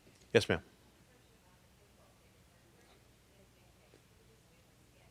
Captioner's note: person speaking off mic